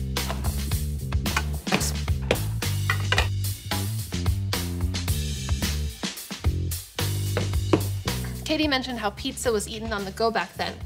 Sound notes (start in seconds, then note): 2.2 pizza dishes clank and clatter